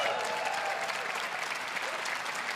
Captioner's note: applause